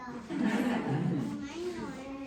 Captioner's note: laughter